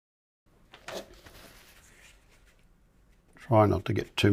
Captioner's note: silence